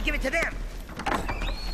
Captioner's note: door opening